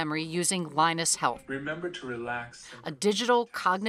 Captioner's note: electronic Voice